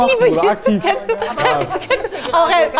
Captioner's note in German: Stammelnde Laute